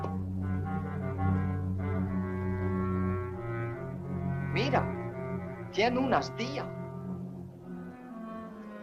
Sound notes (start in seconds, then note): 4.1 officer speaks Spanish